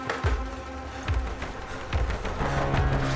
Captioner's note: dramatic music continues; door rattling; dramatic music continues